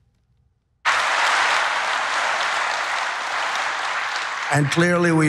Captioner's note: applause